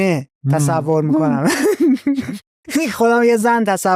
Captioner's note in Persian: خنده